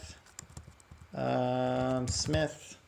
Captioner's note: typing